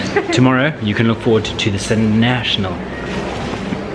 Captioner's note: fumbles over words